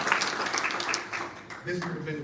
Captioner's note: applause